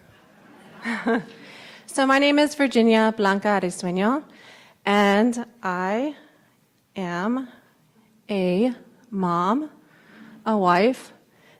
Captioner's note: laughs